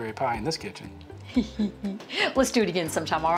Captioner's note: giggles